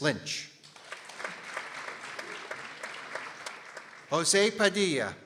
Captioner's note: people applauding